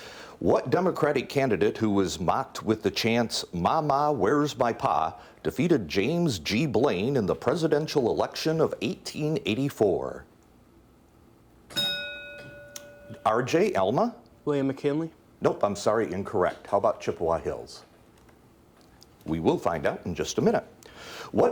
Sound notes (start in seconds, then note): 11.7 bell dings